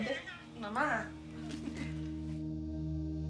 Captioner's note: chuckling